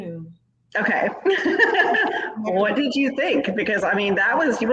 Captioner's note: laughs